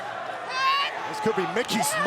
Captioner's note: Mickie shouts